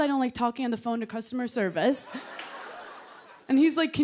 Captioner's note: laughter